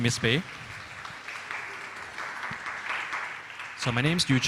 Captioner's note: audience applauds